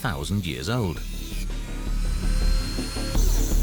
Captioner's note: saw whirrs